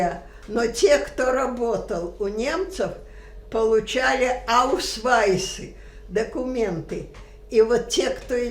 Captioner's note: german